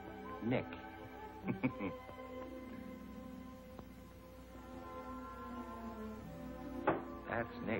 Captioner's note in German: lacht